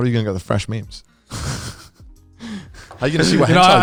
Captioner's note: laughing